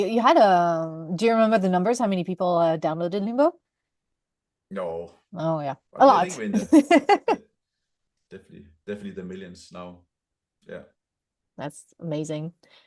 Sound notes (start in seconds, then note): 6.4 laughs